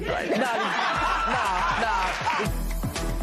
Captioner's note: laughter